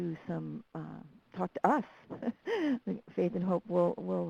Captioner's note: chuckles